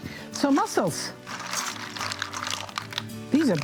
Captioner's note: mussels clacking